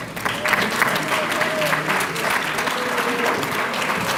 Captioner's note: applause